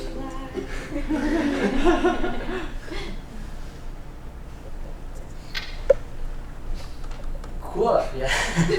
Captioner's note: laughter